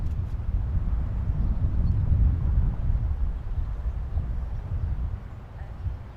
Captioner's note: wind howling continues